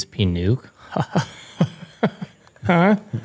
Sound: laughter

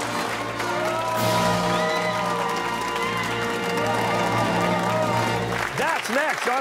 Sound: fanfare; cheers and applause

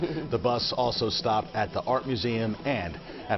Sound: laughter

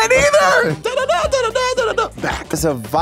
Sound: imitates trumpet sound

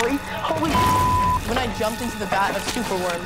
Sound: beep

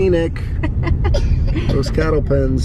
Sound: laughs

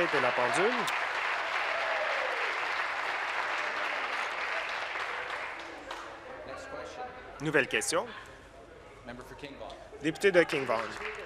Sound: applause

